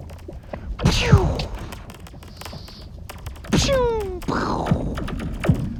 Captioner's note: imitates lasers buzzing